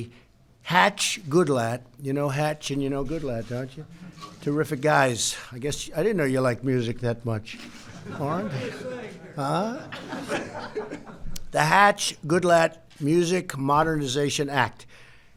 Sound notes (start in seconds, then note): 7.6 laughter